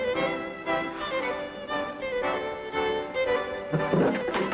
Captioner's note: chair clattering